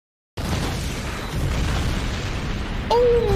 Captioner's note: explosion